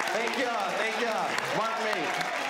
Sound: audience cheering

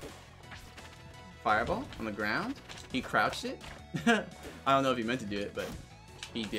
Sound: laughs

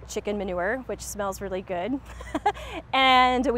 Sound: chuckles

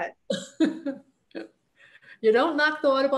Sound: laughs

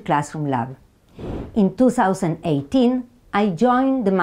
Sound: slide whooshes

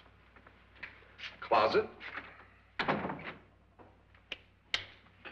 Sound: door closes

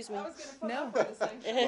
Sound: laughter

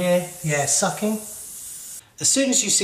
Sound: air hissing

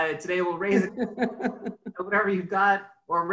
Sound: laughs

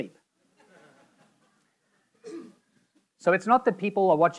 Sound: audience laughing

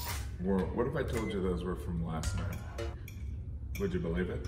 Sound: none

